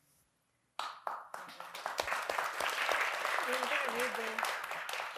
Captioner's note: audience applauding